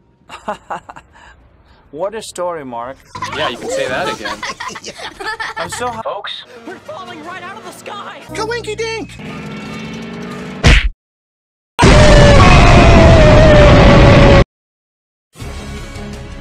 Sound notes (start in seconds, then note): 3.1 laughs; 3.1 both laughing; 11.8 explosion; 15.3 credits music